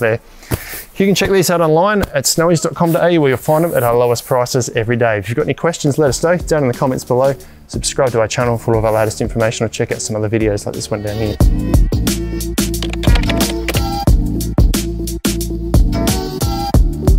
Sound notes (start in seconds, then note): 12.7 keystrokes tapping; 14.4 gentle music